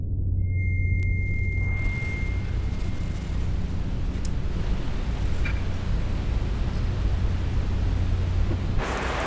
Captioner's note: distorted ambient noise fades in as hearing aids are turned on one at a time